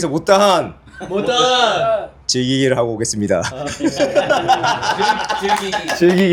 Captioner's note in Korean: 웃음